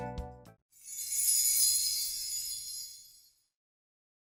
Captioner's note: chimes